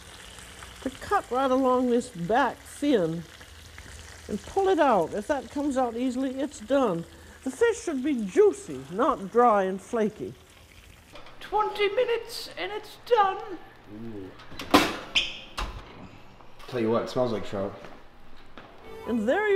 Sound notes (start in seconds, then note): 14.4 oven squeaks and clicks